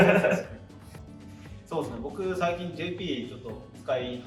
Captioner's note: laughs